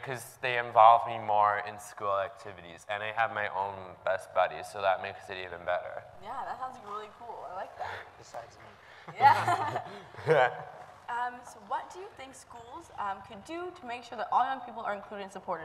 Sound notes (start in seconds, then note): 9.0 laughs